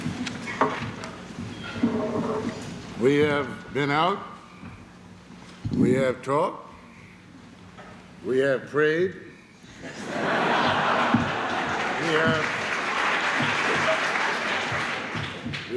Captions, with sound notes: We have been out. We have talked. We have prayed. [LAUGHTER] [APPLAUSE]